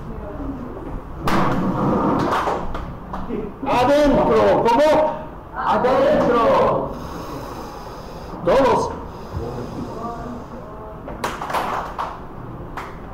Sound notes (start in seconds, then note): 2.2 hand clap; 11.2 breathing and clapping